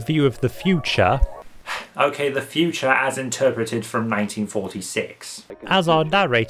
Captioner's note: sighs